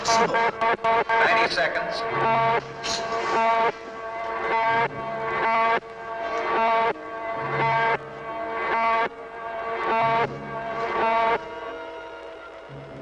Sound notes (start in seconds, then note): 0.0 buzzing; 1.7 loudspeaker; 2.0 buzzing